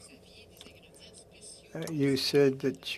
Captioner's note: speaking French